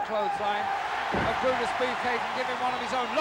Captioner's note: audience cheering